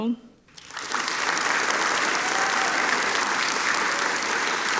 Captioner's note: audience applauding